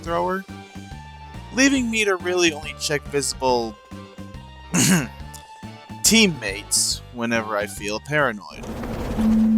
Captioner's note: ahem